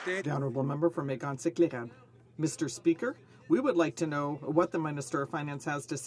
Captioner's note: some Applause